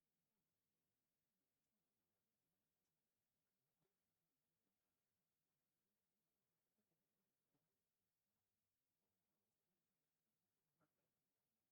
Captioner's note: click